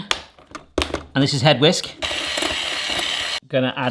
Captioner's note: electric whisk